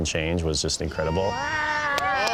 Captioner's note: crowd cheering